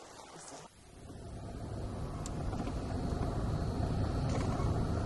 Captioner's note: car humming